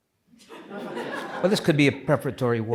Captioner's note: audience laughs